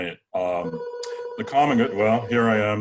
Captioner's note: phone ringing